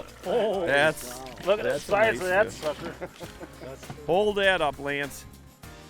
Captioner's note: laughing